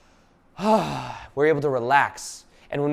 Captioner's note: sighing loudly